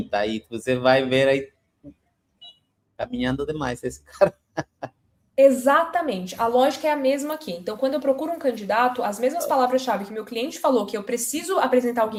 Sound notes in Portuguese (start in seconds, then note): 4.2 risadas